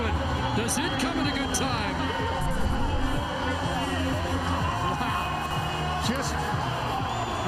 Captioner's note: cheers & Applause